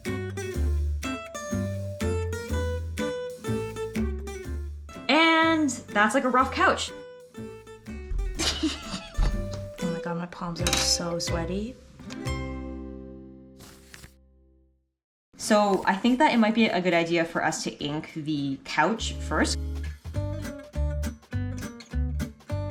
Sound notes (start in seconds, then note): 0.2 playful music continues; 8.3 Ayo laughs; 13.6 page flipping; 19.0 funny music